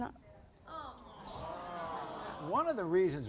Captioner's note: audience groans